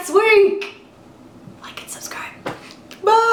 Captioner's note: whispers